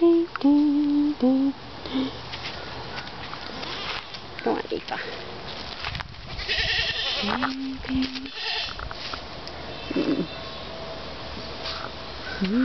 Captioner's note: humming